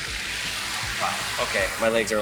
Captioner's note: air hissing